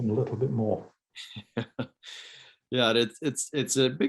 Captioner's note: chuckles